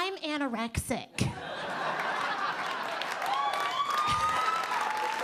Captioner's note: audience laughing